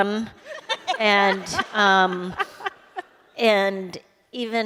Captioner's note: laughter